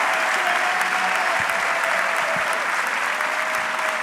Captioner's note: audience clapping